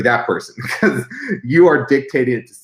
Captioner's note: laughs